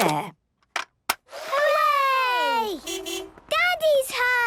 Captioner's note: distant beeping